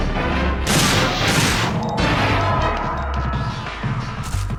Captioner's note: gun blasting